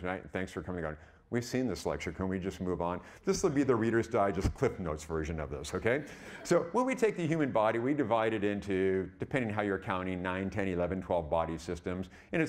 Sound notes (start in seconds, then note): 5.7 audience chuckling